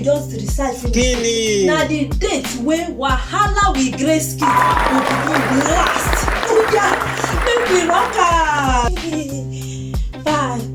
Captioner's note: applause and cheering